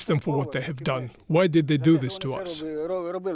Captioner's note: speaking alternate language